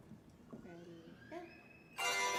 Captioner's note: speaking softly